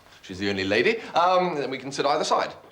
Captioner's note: none